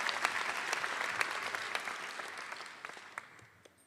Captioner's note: applause